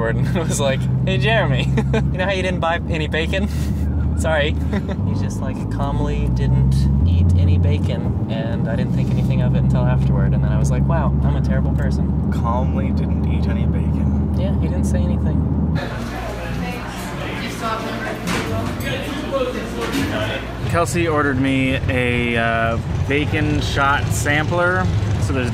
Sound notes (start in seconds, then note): 4.6 chuckles; 14.3 people chatting; 18.2 workers yelling